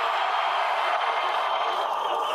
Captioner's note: cheering